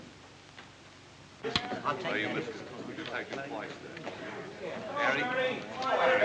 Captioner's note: chattering